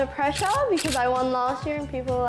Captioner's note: camera clicking